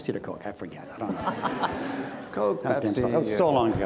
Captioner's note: audience laughs